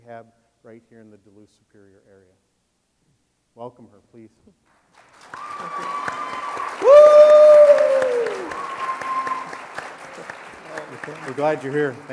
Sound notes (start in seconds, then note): 4.9 audience applauding; 5.1 audience cheering